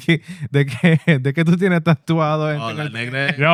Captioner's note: speaking Spanish